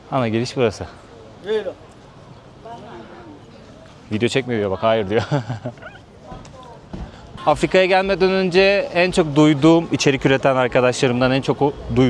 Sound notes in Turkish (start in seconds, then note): 5.1 kahkaha